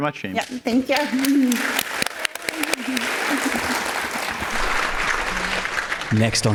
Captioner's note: applause